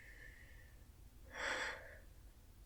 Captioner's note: shaky breath